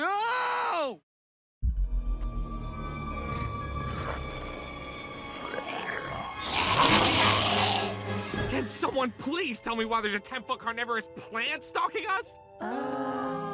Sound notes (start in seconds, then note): 1.6 ominous music playing; 6.8 growling